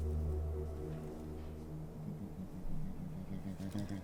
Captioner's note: bears grunting